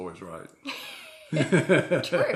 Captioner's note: both laugh